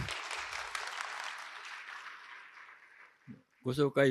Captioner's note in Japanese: 拍手